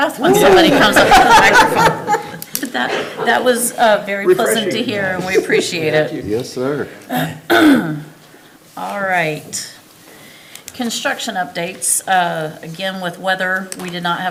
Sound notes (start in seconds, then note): 0.0 everybody laughing; 3.6 everybody laughing; 7.0 member clears throat